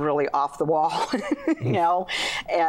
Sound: laughing

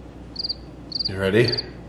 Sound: chirp sound

